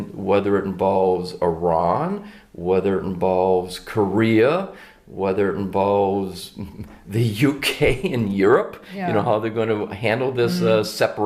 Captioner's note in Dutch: lachen